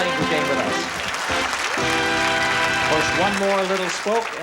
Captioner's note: fanfare; applause